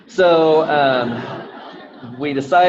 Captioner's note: audience laughing